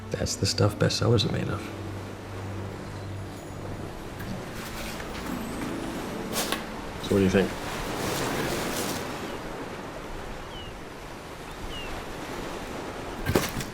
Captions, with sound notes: THAT'S THE STUFF BESTSELLERS ARE MADE OF. [OCEAN WAVES ROLLING IN] SO WHAT DO YA THINK? [SEAGULLS AND OCEAN WAVES ROLLING IN]